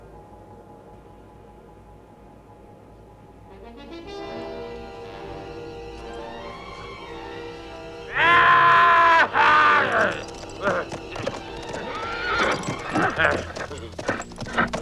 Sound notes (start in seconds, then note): 8.3 man shouting